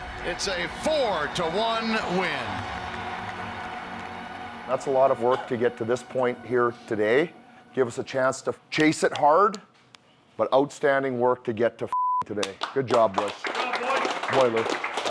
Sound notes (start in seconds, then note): 11.9 beep; 12.2 hands clapping